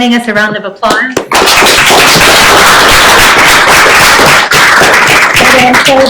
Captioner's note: applause